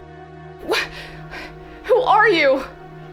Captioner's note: sighing